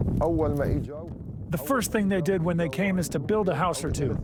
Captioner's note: through translator